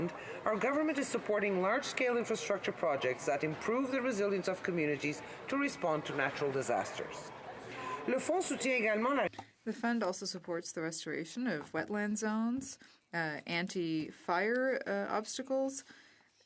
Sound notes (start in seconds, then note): 10.9 speaking French